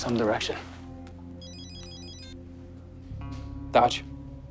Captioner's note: beeps